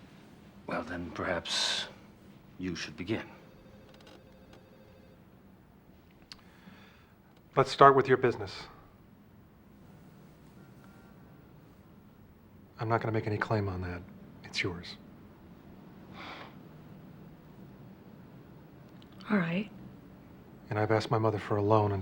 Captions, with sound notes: Well, then perhaps you should begin. Let's start with your business. I'm not gonna make any claim on that. It's yours. (EXHALES) All right. And I've asked my mother for a loan until I get a job,